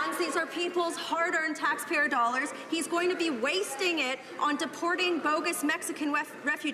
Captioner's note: some Applause